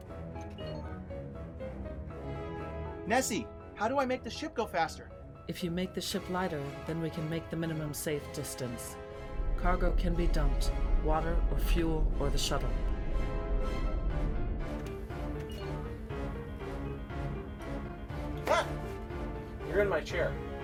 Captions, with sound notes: Nessie! How do I make the ship go faster? (Computer Voice) If you make the ship lighter, then we can make the minimum safe distance. Cargo can be dumped. Water or fuel or the shuttle. Ah! You're in my chair.